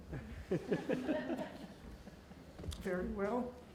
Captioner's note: laughing